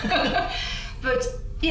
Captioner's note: both laugh